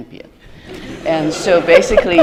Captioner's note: laughter